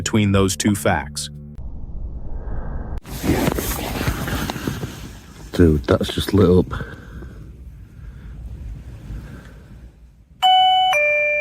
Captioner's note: original source audio: alarm activation and immediate reaction